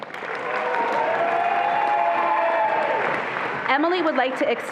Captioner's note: attendees applauding and cheering